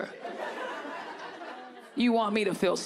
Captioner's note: audience laughing